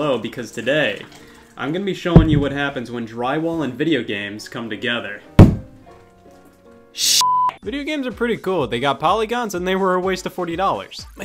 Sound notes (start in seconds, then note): 5.3 soft music; 5.4 wall knocking